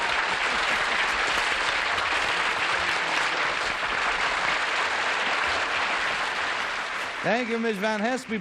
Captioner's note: applause